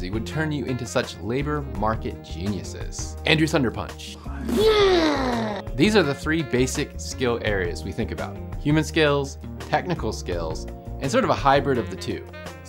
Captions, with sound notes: would turn you into such labor market geniuses. Andrew thunder-punch. (groans) These are the three basic skill areas we think about. Human skills, technical skills, and sort of a hybrid of the two.